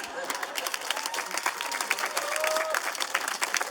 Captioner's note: applause